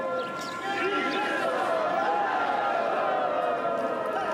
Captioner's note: people speaks foreign language; horns droning; person chanting